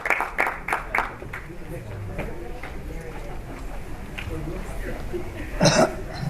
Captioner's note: applause